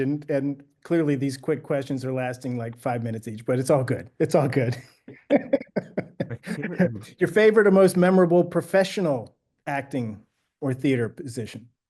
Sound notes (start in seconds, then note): 4.3 laughing